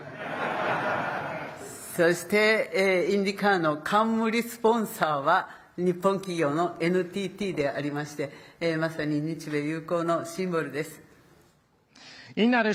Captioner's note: speaking Japanese